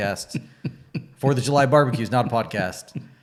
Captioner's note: laughing